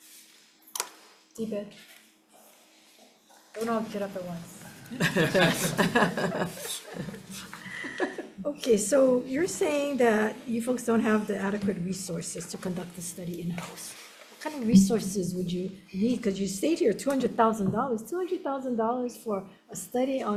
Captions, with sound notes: DBEDT. Oh, no, get up at once. (panel laughing) Okay, so you're saying that you folks don't have the adequate resources to conduct the study in house. What kind of resources would you need, 'cause you stayed here, $200,000, $200,000 for a study